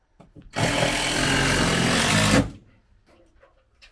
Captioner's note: drill rattles